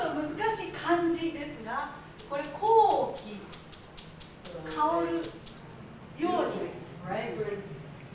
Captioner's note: speaking Japanes